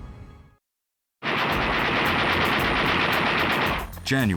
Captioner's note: gunfire